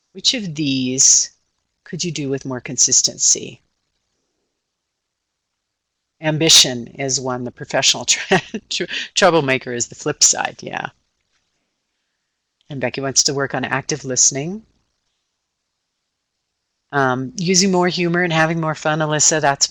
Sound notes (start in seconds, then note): 7.3 laughing